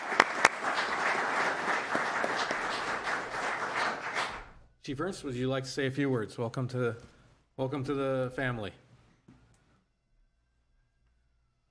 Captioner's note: applause